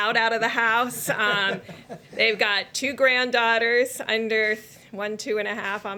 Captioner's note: laughter